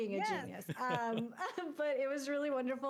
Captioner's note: chuckling